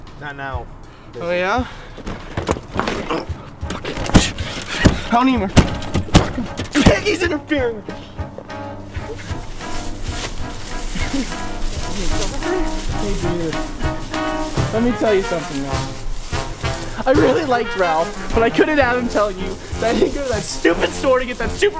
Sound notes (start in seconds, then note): 2.8 Castillo grunts; 5.4 door slams over and over